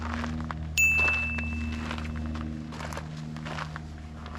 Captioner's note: bell dinging